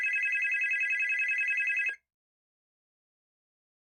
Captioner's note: phone Ringing